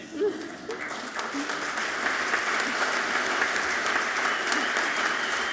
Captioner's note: audience clapping loudly